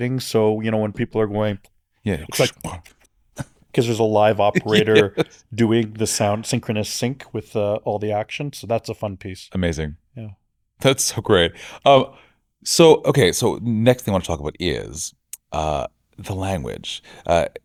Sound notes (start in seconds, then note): 2.3 imitates fight sound effects